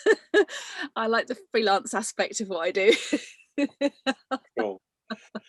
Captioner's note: laughs